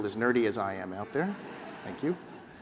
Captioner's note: laughter